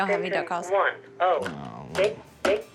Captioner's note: automated phone message; phone beeps